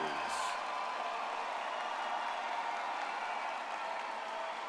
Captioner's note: audience cheers